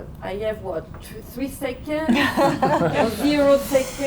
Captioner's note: crowd laughing